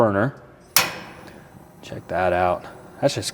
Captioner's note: burner knob clicks